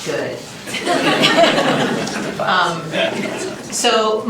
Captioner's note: laughter